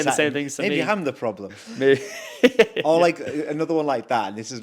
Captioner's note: chuckles